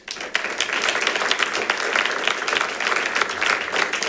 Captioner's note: audience applauding